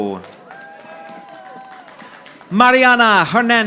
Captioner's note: audience applauding